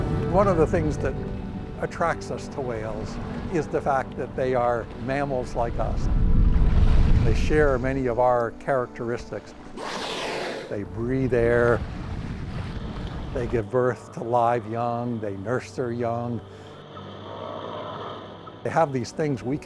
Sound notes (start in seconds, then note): 16.4 whales calling